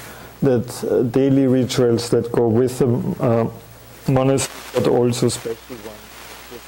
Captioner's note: audio static